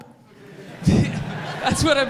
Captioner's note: audience laughs